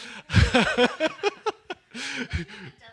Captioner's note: laughs